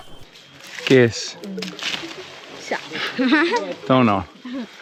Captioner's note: speaking in foreign language